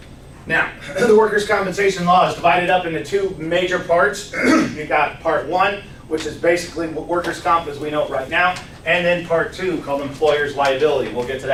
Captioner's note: clears throat